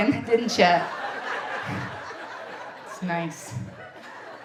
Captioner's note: audience laughing